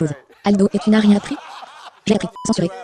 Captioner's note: all laughing